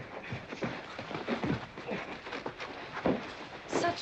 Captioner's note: men scuffling